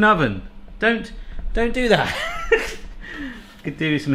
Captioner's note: laughing